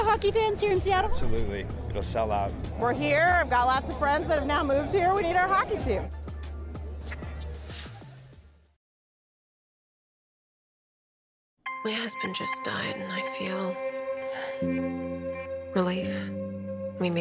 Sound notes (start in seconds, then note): 14.2 sighs